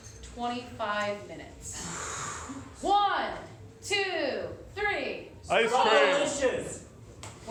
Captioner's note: audience yells words